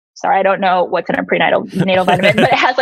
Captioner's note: laughs